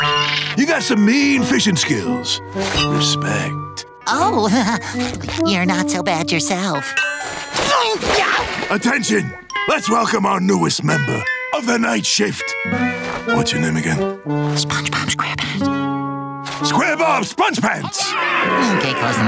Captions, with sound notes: You got some mean fishing skills, respect. Oh, heh heh, you're not so bad yourself. [screaming] Attention! Let's welcome our newest member of the night shift. What's your name again? SpongeBob Square Pants. -Square Bob Sponge Pants! -Okay close enough.